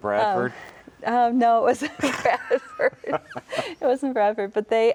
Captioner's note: laughing